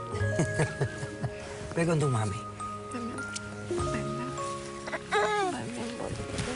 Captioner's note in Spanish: Ríe